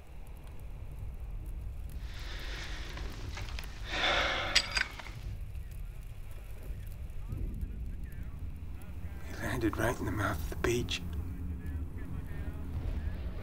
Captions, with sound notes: (sighs) - I landed right in the middle of the beach.